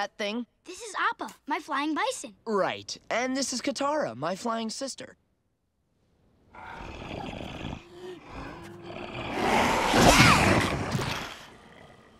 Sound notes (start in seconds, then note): 6.6 grunting